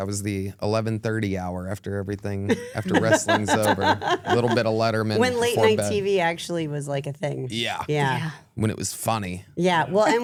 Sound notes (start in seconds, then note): 2.6 laughs